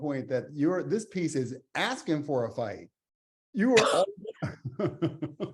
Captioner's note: laughs